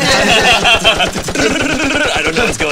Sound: everyone laughing; machine gun firing

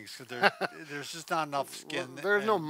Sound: laughs

